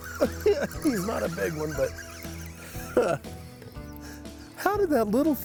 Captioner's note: chuckles